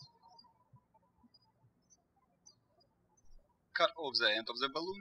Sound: birds chirping

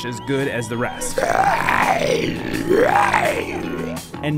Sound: growls

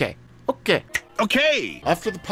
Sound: snaps

